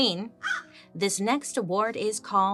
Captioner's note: Joan caws